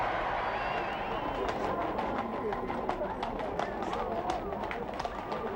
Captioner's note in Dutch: paardenhoeven kletteren